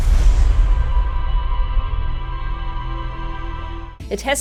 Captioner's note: whoosh